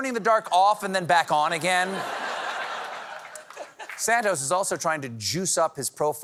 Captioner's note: laughter